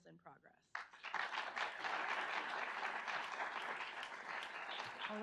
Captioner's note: audience applauds